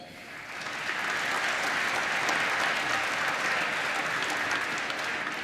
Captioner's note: applause